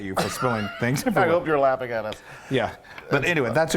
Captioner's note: laughs